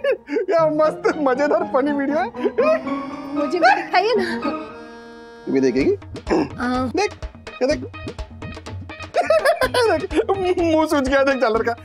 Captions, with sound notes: It's a funny video. Show it to me. - Will you watch it too? - Yes. Look. [laughs] His face swelled up.